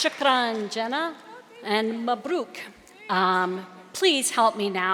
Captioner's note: speaking native language